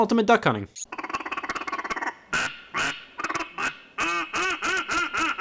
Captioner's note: duck quacking